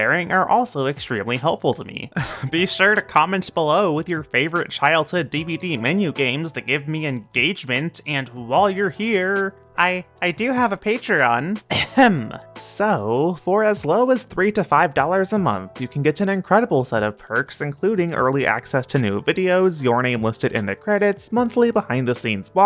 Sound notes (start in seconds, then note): 11.7 ahem